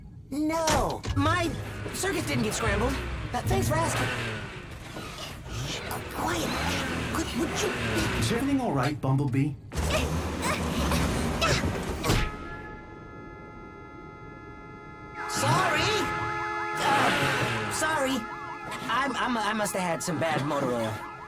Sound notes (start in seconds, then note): 1.3 revving; 5.1 whispering; 10.4 grunting; 13.2 horn blaring; 16.2 car alarm blaring